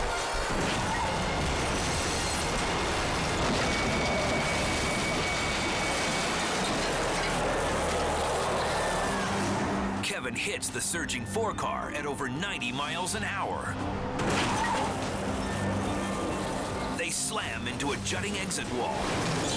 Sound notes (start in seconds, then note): 0.8 tires screeching; 2.4 cars crashing